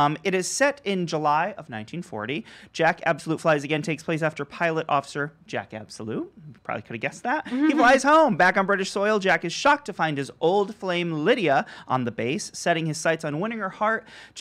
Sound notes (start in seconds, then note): 7.4 laughs